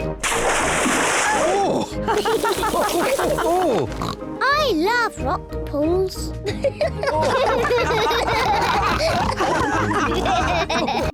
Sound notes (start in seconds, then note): 2.0 all chuckle; 6.5 all giggle